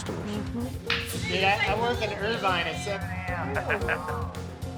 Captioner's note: laughs